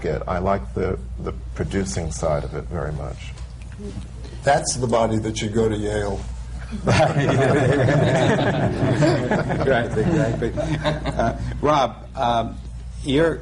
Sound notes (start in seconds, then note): 10.3 laughter